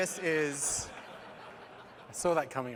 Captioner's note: laughter